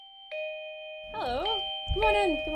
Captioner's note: doorbell